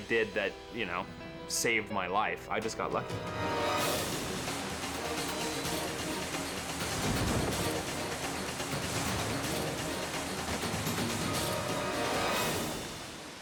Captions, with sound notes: that, you know, saved my life. I just got lucky. (dramatic music) (parachute rumbles) (dramatic music)